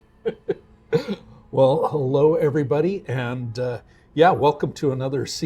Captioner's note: laughs